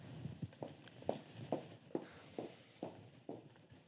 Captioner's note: receding footsteps